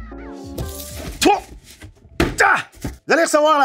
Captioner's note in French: sons d'effort